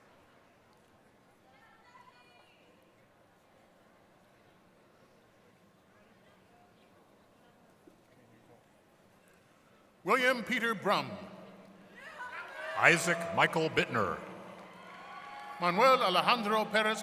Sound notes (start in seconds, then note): 5.8 applause